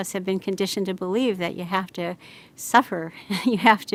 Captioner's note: laughs